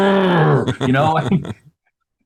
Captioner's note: growls